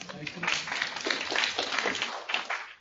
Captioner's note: applause